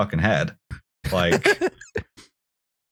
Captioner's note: laughs